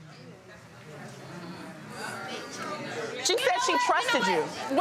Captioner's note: audience chattering